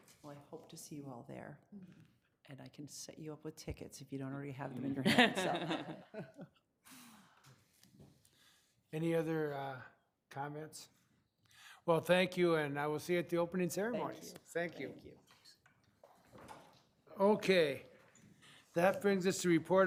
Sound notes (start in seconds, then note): 4.9 laughing